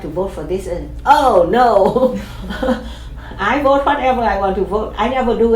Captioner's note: chuckles